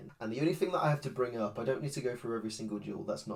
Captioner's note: none